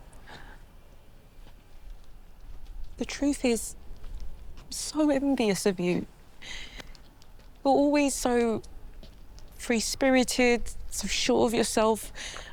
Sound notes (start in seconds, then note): none